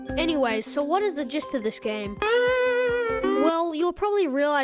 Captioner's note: disappointment sound